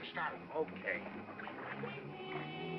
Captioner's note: man's voice; ominous music